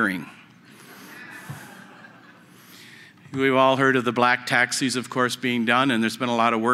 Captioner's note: laughter